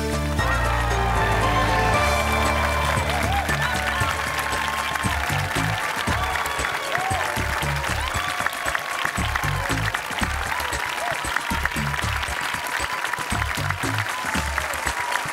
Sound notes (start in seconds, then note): 0.5 cheering and applause